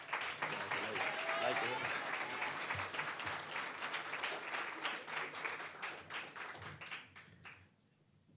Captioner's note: applause